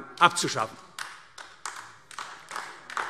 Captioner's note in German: Vereinzelter Beifall AfD